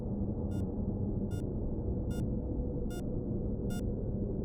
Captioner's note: heart monitor beeping